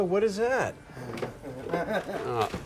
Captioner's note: chuckles